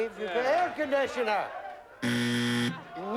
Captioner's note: buzzer